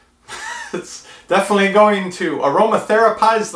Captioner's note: laughs